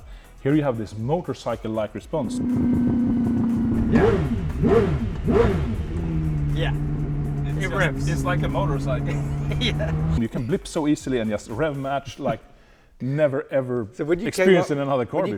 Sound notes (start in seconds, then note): 4.1 engine revs